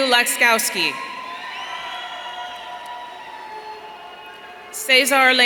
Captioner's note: audience cheering